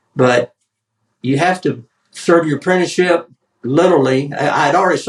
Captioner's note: none